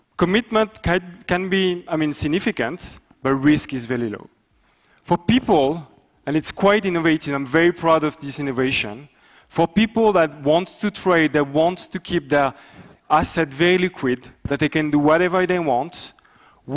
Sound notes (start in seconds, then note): none